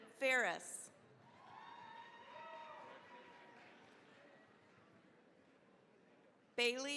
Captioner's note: cheering, applause